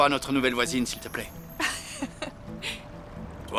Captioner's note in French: rires